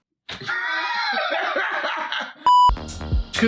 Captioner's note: laughs